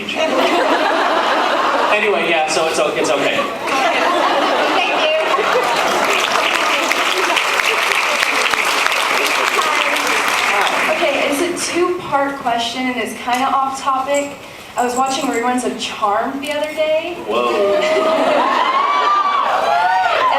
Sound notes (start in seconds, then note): 0.2 laughs; 4.1 laughs; 5.1 applauds; 5.1 laughs; 10.4 applauds; 17.4 laughs; 17.5 cheers